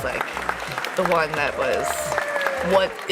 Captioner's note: audience clapping